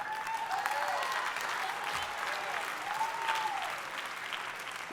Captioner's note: audience cheering